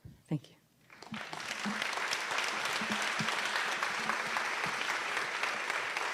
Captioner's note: audience applauding